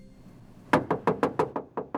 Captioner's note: knocks